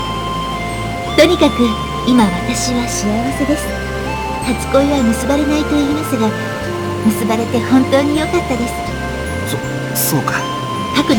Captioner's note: rain